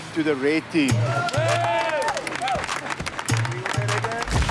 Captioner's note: red team cheers